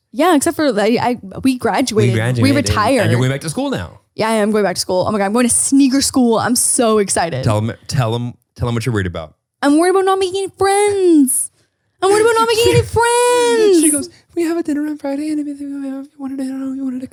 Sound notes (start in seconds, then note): 15.7 murmurs